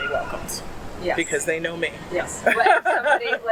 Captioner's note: laugh